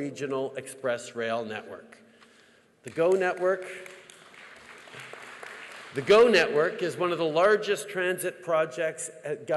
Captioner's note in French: Applaudissements